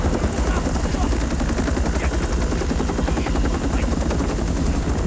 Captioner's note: Korean